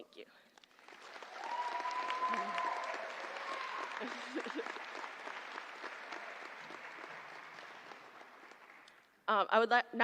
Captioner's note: applause